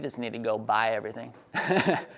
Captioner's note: laughs